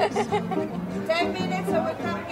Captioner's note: laughing